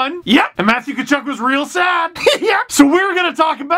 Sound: laugh

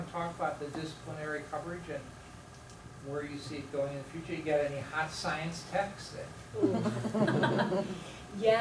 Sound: chuckling

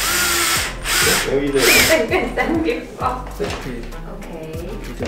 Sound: laughs

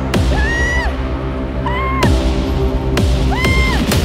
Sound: screams; fast drum music

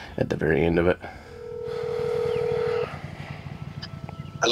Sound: dial tone ringing

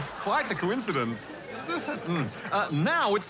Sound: chuckles

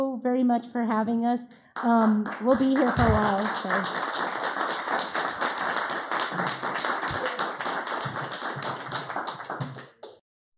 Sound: applause; applause then Music

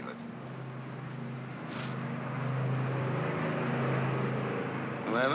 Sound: aircraft rumbles

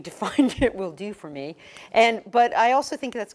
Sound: laugh

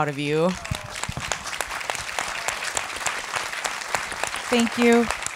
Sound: audience applauding

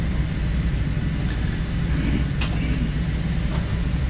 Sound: clears throat

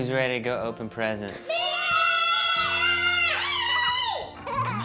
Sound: girls screaming

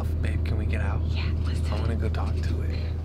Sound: whispers

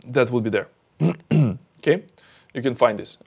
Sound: clears throat

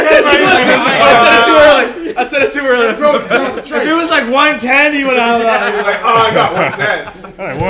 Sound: laugh

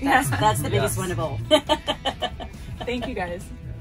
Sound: laughing

